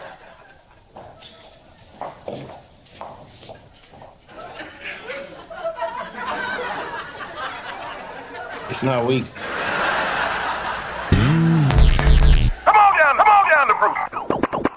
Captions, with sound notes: [laughter] It's not weak. Come on down. Down to.